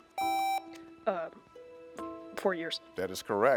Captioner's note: buzzer beeps